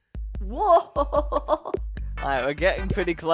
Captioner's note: chuckling